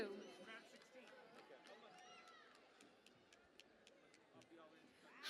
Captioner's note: cheering and Applause